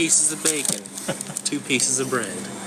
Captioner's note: paper rustling; chuckles